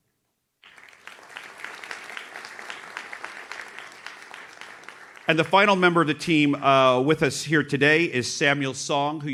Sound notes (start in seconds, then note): 0.6 audience claps